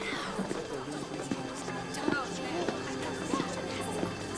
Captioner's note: people gasping; murmuring continues